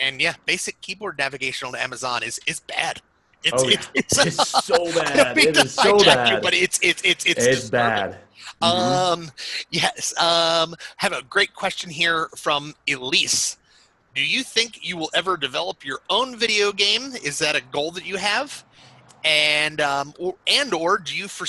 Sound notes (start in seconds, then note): 3.5 laughs